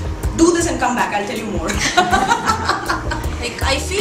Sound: laughing

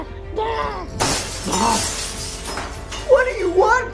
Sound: glass Shatters

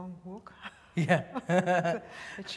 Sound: laughter

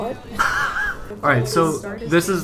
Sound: laughs

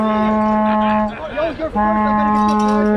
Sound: vuvuzela, cowbell sounds

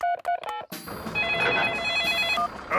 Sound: phone ringing; phone beeping

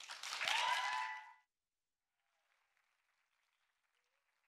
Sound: audience cheering

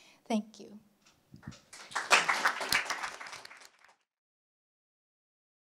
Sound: applause

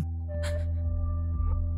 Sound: May gasps

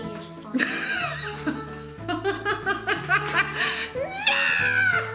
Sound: laughs

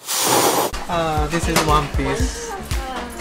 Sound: cat hissing noise

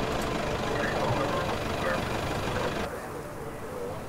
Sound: voices over radios

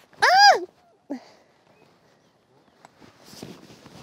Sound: Claire squealing

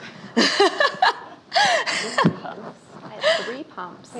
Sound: laughing

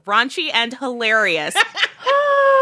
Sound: laughter

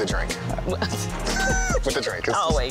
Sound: both laughing

